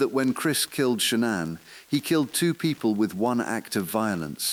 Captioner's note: exhale